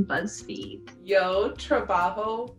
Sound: speaking Spanish

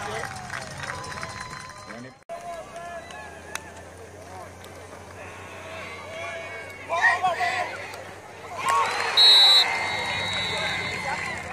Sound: applause

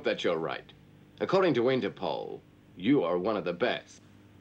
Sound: mutters

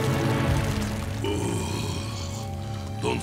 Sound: groaning

